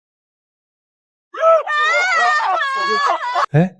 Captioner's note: commotion